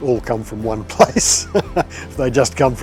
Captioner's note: laughs